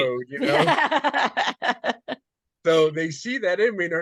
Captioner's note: laughing